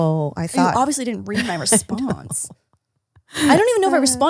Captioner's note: laughs